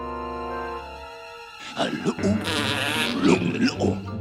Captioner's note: growling, huffing